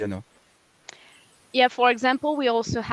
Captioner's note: translating from French